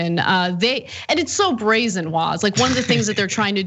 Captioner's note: laugh